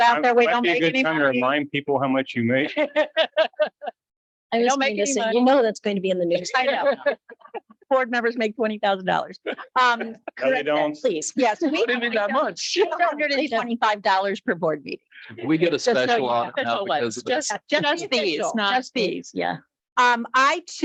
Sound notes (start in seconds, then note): 2.5 light laughter; 6.0 group chattering; 11.3 group chattering; 16.7 group chattering